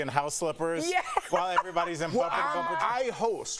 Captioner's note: laughter